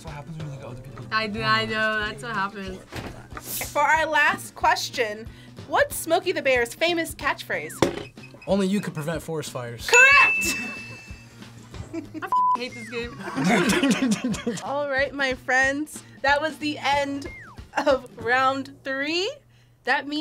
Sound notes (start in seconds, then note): 9.9 bell rings; 12.7 both laugh